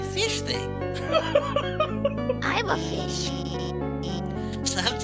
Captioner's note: laughs